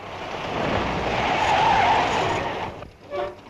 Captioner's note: tires screeching